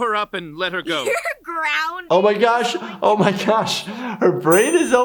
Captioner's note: laughs